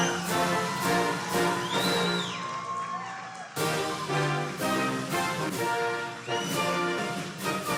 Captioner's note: applause